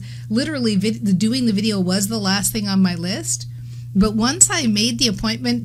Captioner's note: none